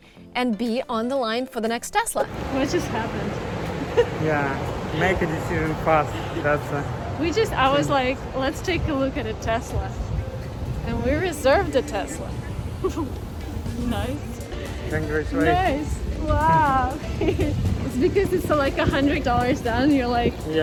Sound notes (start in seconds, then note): 3.7 chuckling; 12.6 chuckling